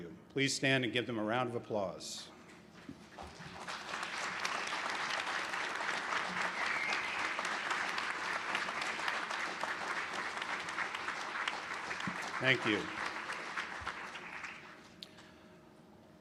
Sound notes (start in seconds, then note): 2.2 applause